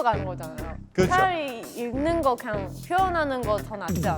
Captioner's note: gulp